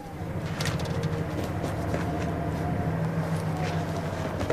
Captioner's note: wind whistling